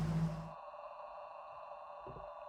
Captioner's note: rustling sounds